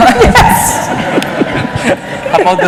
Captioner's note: laughter